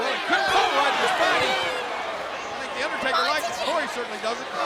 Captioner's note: crowd chattering